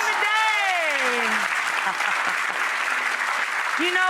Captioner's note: audience applauds